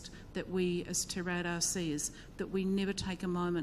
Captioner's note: speaks in foreign language